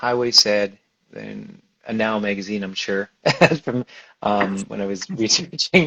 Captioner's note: laughs